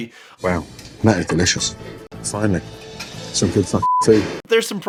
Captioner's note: beeping